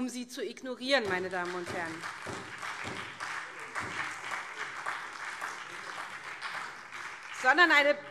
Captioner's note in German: Beifall SPD